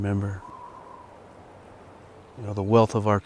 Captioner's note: wind whistles